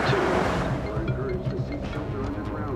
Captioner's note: cell phone ringing